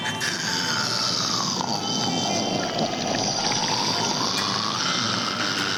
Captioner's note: slurping sound